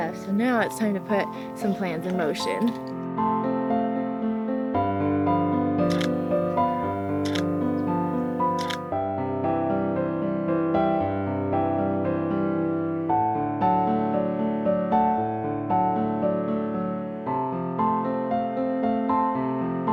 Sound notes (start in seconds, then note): 4.7 piano music; 5.8 shutter clicks; 10.0 piano music